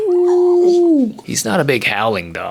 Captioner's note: Jaco barks; me howling at the moon